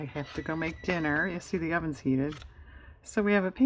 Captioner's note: electronic beeping